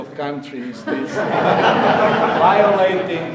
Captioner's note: audience laughing